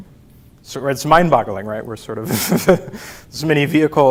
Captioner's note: laughs